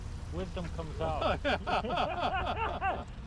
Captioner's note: all laughing